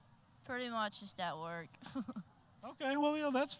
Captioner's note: chuckling